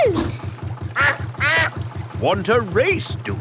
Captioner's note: quacks